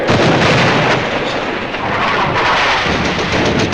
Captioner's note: guns blasting